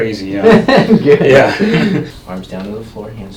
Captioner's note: laughs